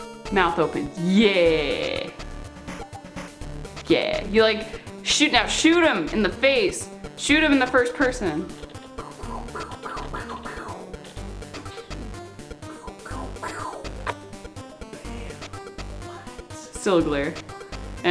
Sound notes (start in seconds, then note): 9.0 mouthing gun sounds